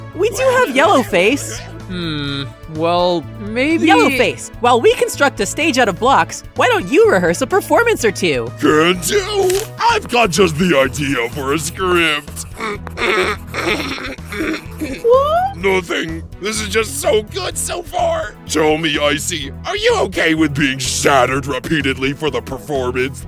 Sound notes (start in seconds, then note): 12.4 suspiciously stifled laughter